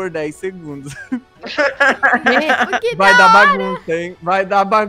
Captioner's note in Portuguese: todos rindo